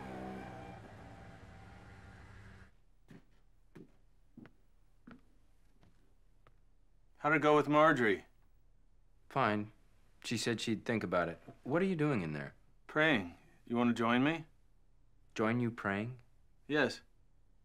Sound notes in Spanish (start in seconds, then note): 3.6 pasos acercándose